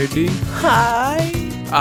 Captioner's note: sigh